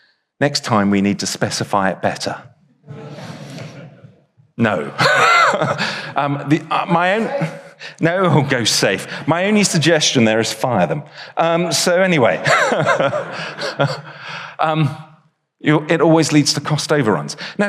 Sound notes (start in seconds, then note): 2.8 audience chuckles; 4.8 chuckles; 12.3 chuckles